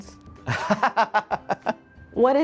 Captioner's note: guffawing